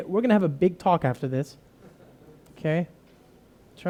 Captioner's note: laughter